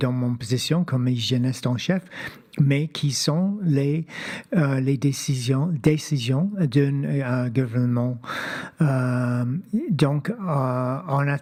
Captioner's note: speaking French